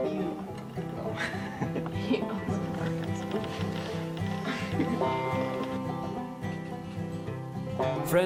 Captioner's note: chuckling